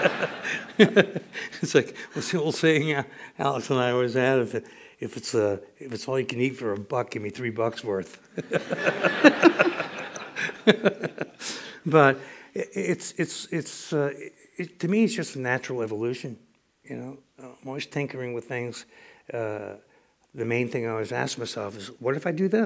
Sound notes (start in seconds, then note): 8.3 laughter